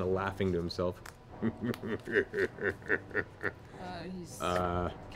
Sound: laughs evilly

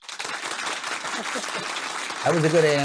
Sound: audience applauds

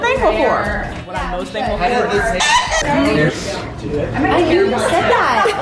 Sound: chicken cluck

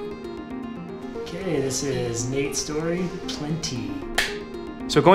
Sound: claps

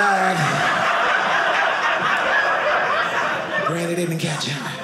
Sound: audience laughing

